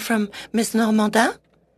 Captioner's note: speaking French